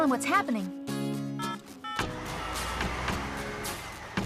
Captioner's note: phone Dialing